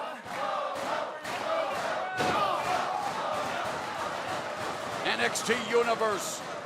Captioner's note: crowd cheering